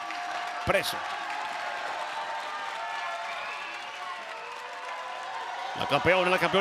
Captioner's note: applause